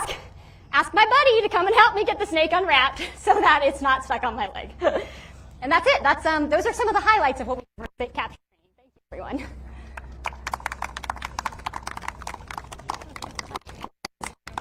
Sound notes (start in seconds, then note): 8.4 mic cuts out; 9.9 audience clapping